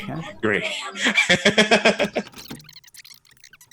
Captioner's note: laughing